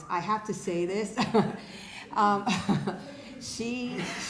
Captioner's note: laughing